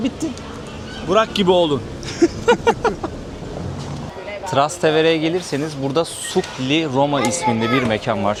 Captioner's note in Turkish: kahkaha